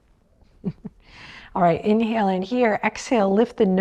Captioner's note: chuckles